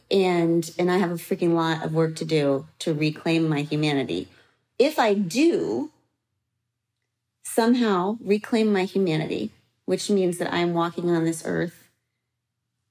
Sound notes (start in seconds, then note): none